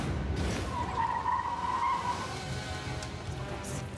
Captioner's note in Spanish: chirrido de neumáticos